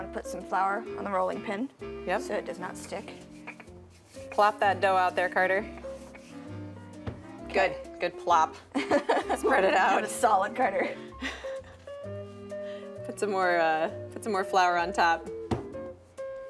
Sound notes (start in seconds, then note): 8.7 laughter